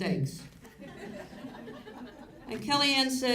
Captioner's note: audience laughs